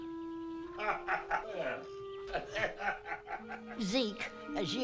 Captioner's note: Hezekiah laughing